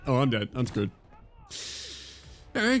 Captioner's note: inhale